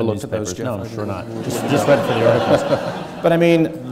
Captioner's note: audience laughing